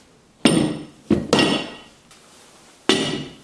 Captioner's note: clunking metal